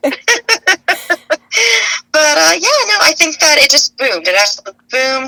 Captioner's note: laughs